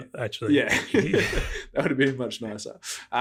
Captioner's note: laughing